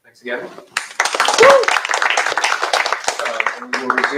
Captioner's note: cheers, applause